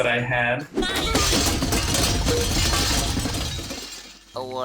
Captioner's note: medals clinking